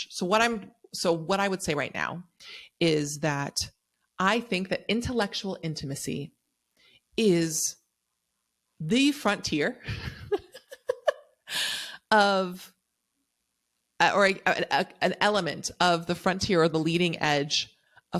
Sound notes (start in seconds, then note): 9.9 chuckles